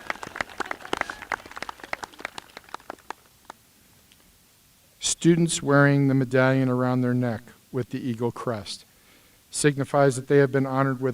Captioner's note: applause